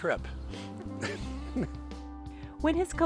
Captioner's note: laughing